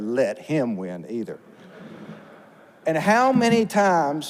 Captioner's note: audience laughs